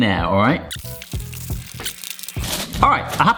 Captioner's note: foil rustling